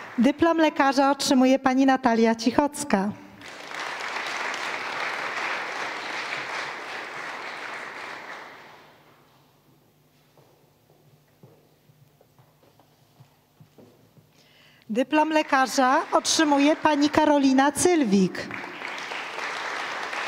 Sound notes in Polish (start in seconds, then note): 3.4 oklaski; 19.6 oklaski